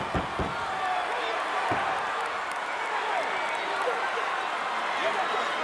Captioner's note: audience cheering